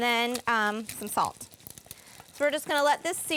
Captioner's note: sizzling; scraping